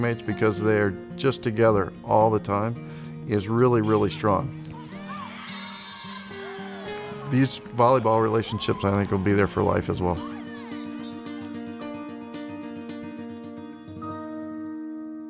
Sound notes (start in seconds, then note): 3.8 players cheer; 5.5 whistle blows; 10.2 gentle guitar music